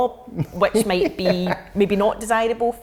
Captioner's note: laughing